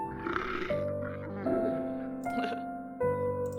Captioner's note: bird, Guttural Croaking; laughs